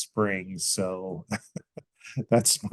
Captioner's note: laughs